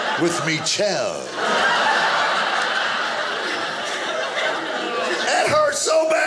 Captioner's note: audience laughing